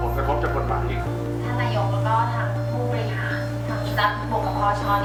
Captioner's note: speaking thai